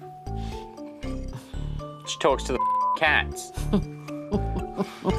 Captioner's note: chuckles